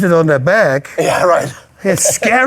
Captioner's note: laughs